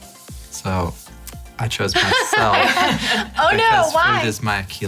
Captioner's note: laughing